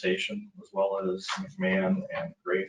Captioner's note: speaking faintly